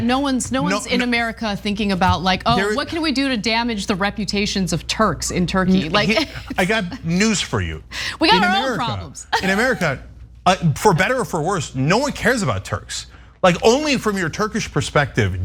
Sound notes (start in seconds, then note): 9.2 laugh